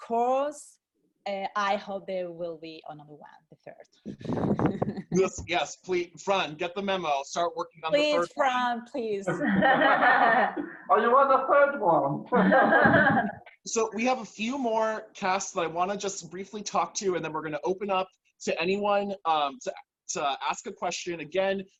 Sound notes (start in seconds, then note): 9.3 laughter; 12.3 laughter